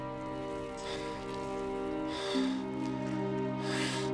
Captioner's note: panting